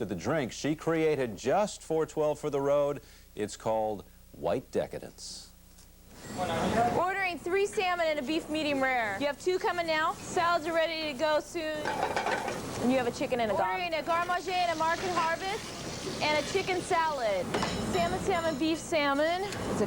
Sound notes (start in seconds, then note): 11.8 pan banging